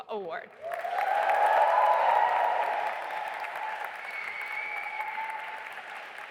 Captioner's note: audience applauding and cheering